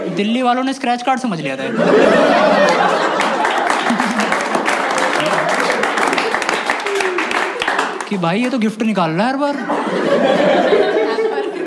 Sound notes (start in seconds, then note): 1.7 laughs; 2.6 clapping; 9.6 laughs